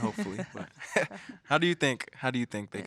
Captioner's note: all laughing